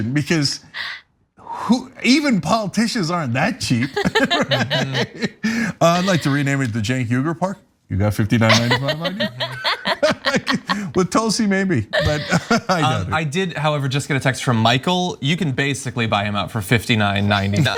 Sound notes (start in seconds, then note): 3.8 laugh; 11.9 laugh